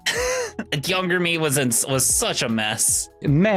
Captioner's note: laughs